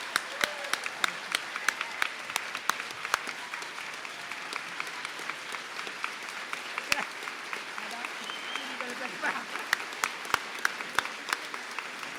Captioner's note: applause